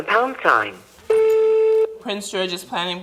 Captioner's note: beep